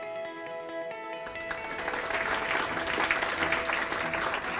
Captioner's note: applause